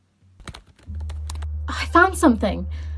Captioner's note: keyboard clacking